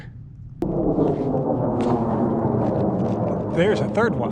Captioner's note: plane engines roaring